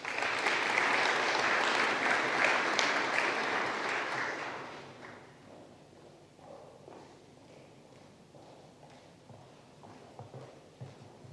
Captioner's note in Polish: oklaski